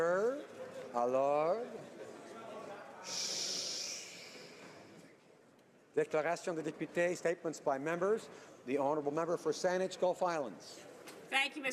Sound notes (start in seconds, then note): 4.9 speaking French